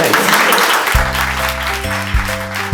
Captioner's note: applause